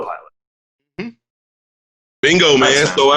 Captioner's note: grunts in agreement